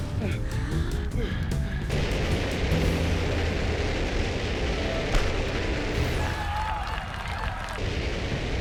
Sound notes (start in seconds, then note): 0.2 panting; 1.8 rockets hissing; 6.0 cheers and applause